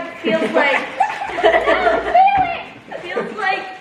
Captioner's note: family giggles